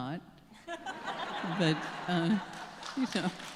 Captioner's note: audience laughing